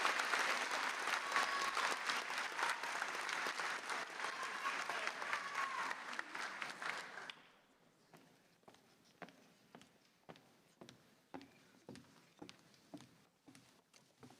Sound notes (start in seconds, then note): 3.0 applause